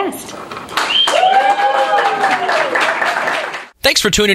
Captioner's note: cheering and clapping